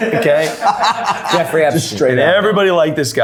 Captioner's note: everyone laughing